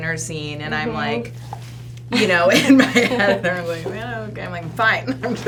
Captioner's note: laughs